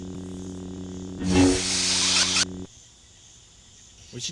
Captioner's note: lightsabers retract